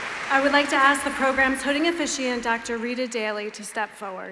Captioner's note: applause